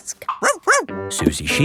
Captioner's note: barks